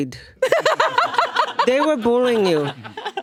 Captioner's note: laughing